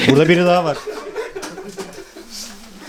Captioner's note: laughter